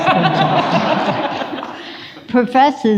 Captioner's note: audience laughs